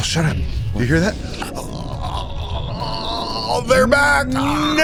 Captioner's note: wailing